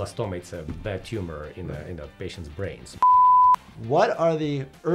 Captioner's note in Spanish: pitidos de transmisión